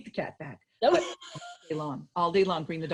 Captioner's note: laughs